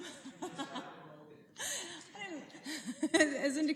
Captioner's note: laughter